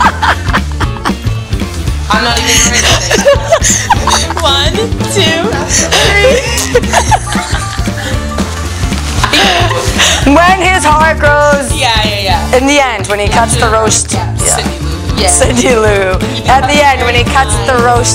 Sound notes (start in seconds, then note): 5.8 laughter